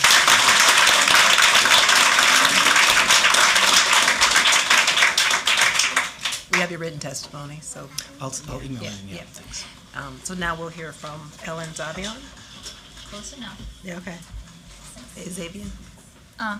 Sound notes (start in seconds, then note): 5.9 applause